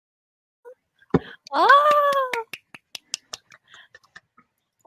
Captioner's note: claps